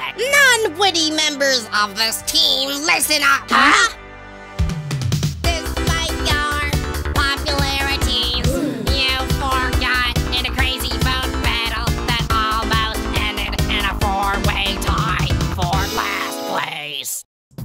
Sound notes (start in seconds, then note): 8.4 gasp